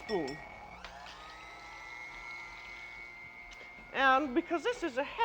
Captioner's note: whirring louder